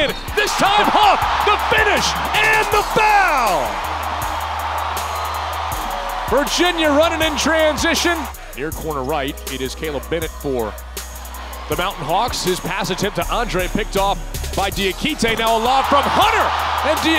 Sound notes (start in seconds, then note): 3.3 cheering